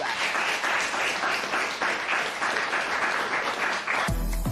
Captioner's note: applause